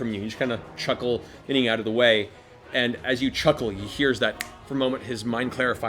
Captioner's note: snap